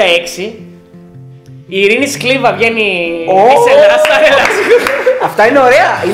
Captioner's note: laughing